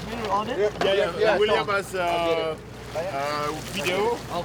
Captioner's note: divers speaking French